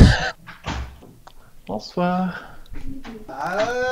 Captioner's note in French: Une porte claque chez Fabert